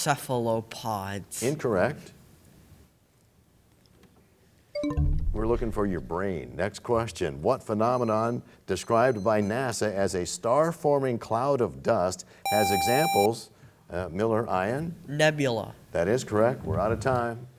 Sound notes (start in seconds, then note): 4.8 bell chimes, time expires